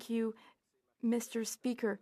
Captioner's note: speaking French